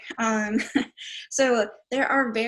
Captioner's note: chuckling